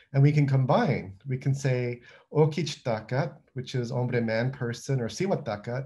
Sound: non-english

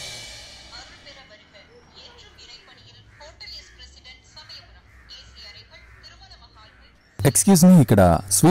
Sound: playing TV News

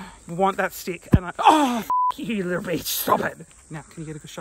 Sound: beep

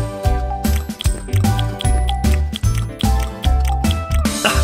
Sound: nomnomnomnomnom

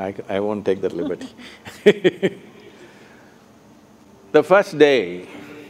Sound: laughs

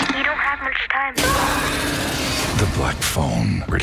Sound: voice Over Phone; screams

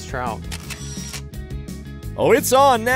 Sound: camera shutters

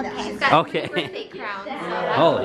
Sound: chuckling

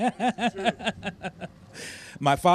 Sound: laughter

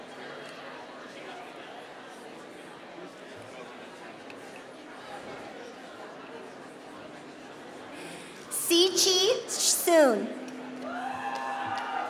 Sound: applause

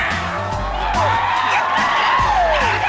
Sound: screaming

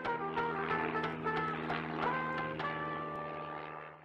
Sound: engine buzzes

